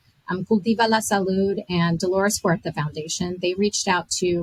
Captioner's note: foreign language